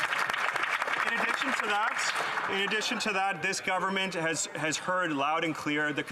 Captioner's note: some Applause